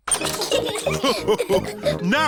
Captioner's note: all laugh